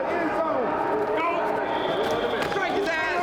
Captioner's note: group chattering; whistle blowing; group chattering